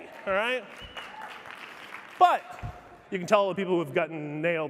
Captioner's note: audience cheering applauding